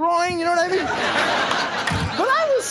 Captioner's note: audience laughing; microphone thumps